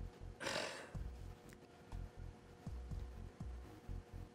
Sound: sighing

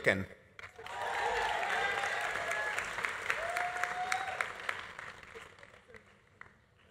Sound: audience applauding; audience cheering

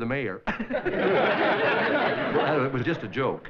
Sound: giggling

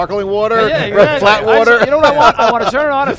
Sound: hosts laughing

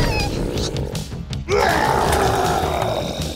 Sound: growling

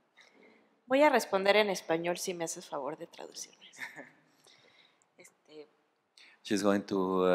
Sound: speaking spanish

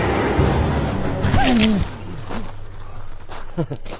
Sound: loud thud; giggles maniacally

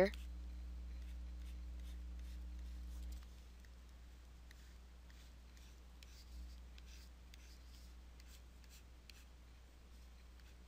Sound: silence

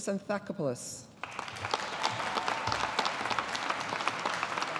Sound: audience applauding

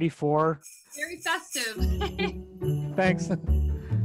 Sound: bells jingling

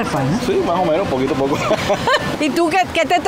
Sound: laugh

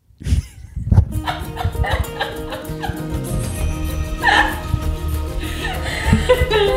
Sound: laughing; lighthearted music

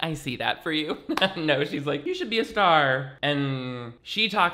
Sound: laughs

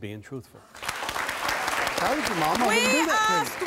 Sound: audience clapping

